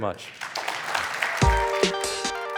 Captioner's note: applause